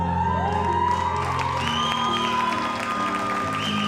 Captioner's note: audience applauds